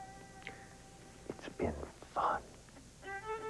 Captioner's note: whispering